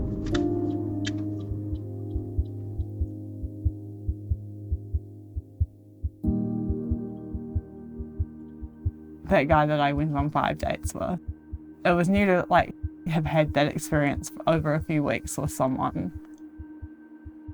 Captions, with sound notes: [piano music ends] [heart beating] [ambient music] That guy that I went on five dates with, it was new to, like, have had that experience over a few weeks with someone.